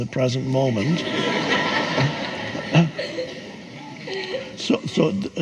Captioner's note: audience laughs